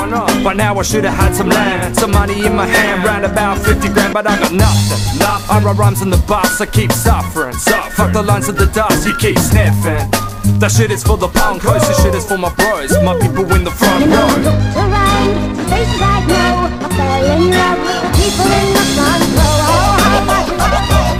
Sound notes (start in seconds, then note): 11.4 woo